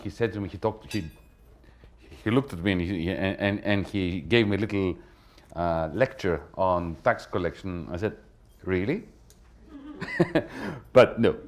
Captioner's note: laughter